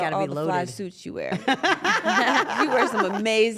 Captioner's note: laugh